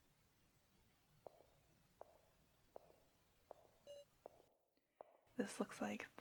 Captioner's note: footsteps